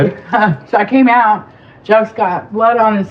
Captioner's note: lauaughs